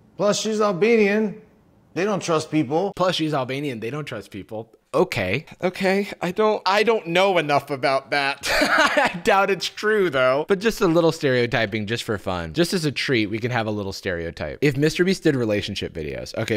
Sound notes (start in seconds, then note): 8.4 laughs